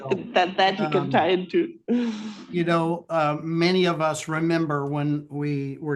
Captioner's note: laughs